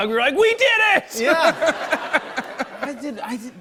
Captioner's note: laughter